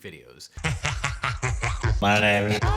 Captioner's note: laughing